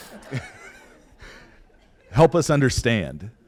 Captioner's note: laughter